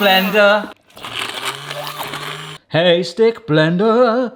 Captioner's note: blender whirring